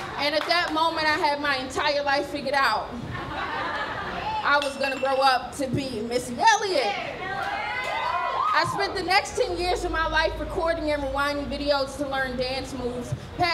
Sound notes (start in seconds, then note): 6.9 cheering